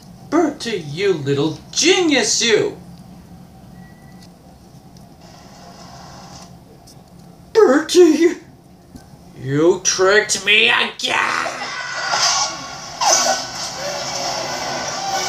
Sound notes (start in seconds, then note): 5.1 whimpers